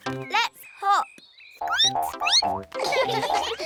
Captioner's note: squeaks; all giggle